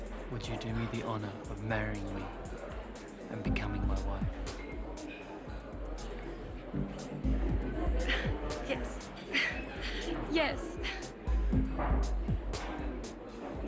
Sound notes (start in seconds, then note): 7.4 chuckles; 11.3 calm music; 13.0 people mumble and chatter in the background